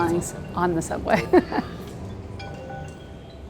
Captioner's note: laughs